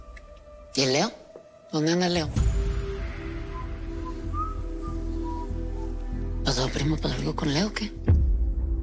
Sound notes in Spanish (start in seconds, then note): 3.4 El parcero silba